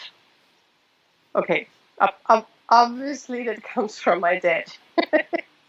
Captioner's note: laughs